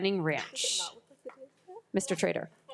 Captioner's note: speaking faintly